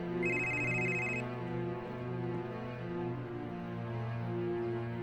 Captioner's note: phone ringing